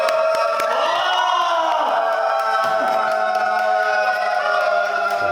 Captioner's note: the crowd roars at the Instructor's entrance